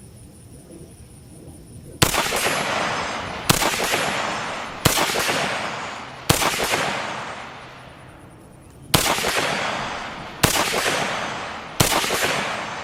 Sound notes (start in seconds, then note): 2.0 fires successive shots